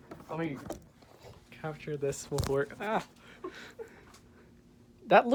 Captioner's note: laughter